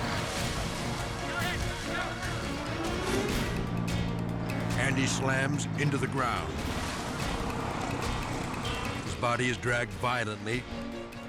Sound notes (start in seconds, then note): 0.0 plan humming; 0.0 suspenseful music; 1.0 people yelling; 2.2 suspenseful music; 7.1 edgy dramatic music; 7.1 plane humming